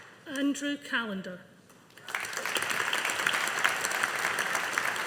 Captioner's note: audience applauding